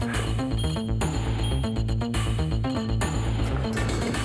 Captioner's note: elevator beeps